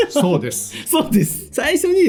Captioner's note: laughs